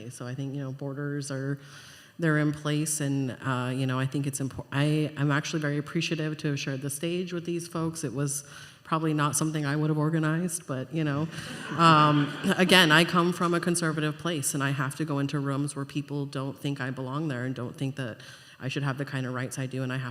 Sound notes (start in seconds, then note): 11.3 laughter